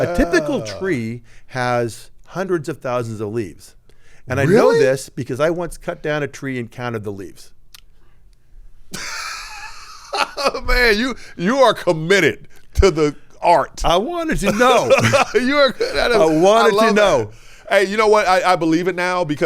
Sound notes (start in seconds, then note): 8.9 laughing; 14.4 laughing